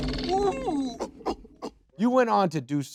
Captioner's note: chimp grunting